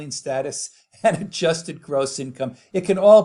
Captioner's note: laughs